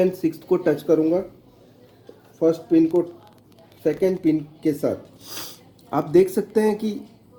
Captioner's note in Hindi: नाक से की जाने वाली आवाज़